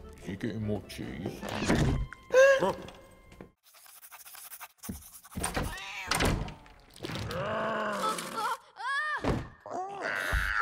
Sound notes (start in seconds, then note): 0.0 whispering; 4.0 whispering